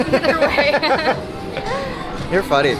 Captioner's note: both laugh